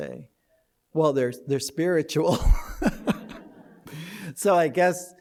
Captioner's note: laughter